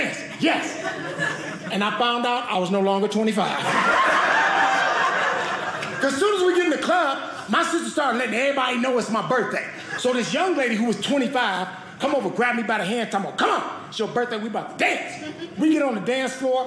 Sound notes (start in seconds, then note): 3.6 audience laughing